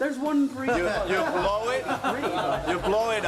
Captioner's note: laughter